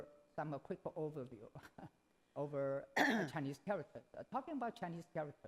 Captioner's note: laughs